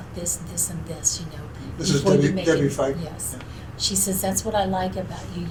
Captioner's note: sighs